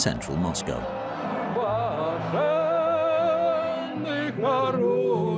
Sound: Russian spoken audio

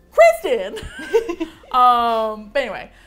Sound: both laugh

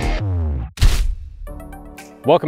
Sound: stamp thud

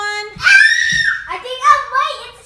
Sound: screams

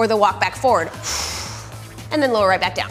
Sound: exhales loudly

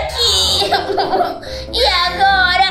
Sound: crying

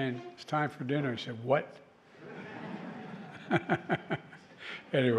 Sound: laughter

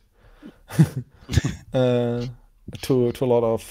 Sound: laugh

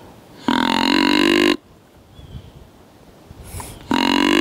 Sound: deer calls

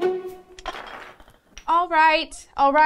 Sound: blocks crash

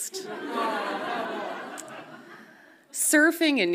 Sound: audience groans softly

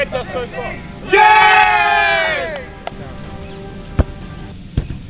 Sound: cheering

